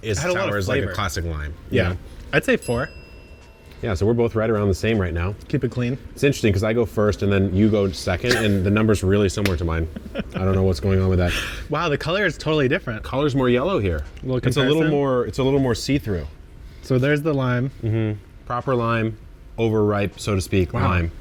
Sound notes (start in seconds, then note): 2.4 bell chimes; 8.2 chuckles; 9.8 laughs